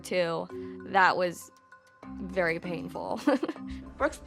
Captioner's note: chuckles